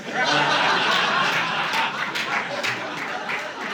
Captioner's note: audience laughing